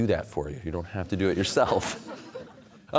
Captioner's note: audience laughter